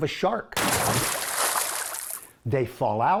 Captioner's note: water splashing